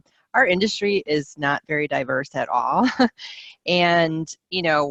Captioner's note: laughs